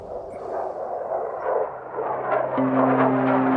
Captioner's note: plane flying